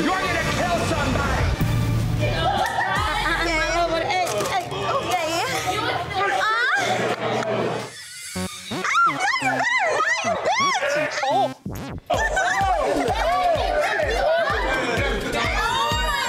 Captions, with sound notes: You're gonna kill somebody. (women moaning) - Ah, you better not, you bitch! - Oh my God!